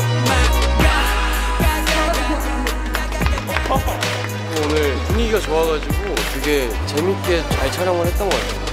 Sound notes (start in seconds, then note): 2.4 everyone claps